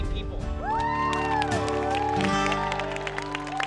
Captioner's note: cheers and applause